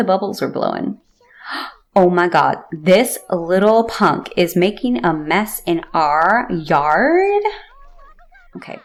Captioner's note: gasp